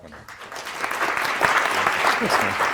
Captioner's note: applause